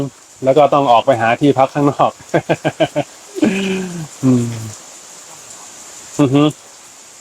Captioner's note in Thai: เสียงหัวเราะ